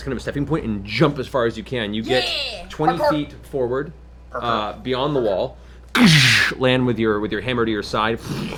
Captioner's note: heavy landing